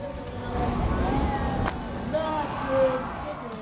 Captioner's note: cheers and applause; smack